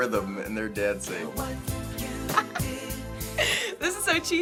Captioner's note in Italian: ridacchiando